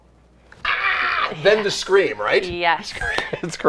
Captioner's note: screaming